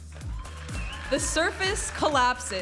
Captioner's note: audience applauding and cheering